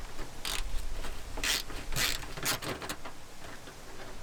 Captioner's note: wrench clicks